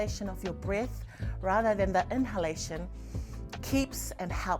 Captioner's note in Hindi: गहरी साँसें